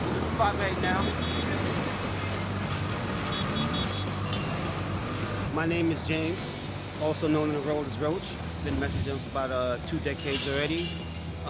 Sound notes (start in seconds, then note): 0.7 taxicab horns honking